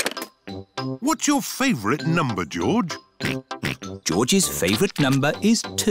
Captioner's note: snorts